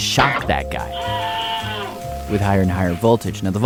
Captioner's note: screams